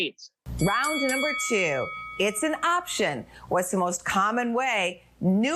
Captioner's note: bell dings